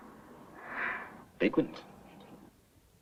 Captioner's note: sigh